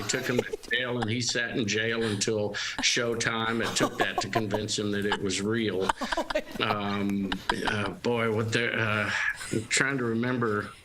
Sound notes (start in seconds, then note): 2.7 laughter